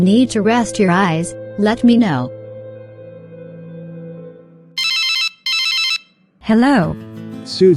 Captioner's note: cell phone rings